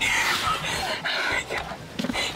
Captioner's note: faintly laughing; laughs